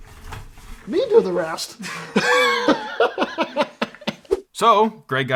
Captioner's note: laughs